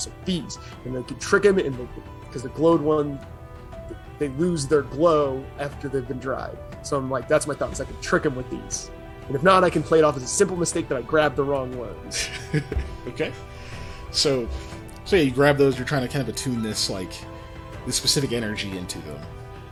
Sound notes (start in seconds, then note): 12.1 laughs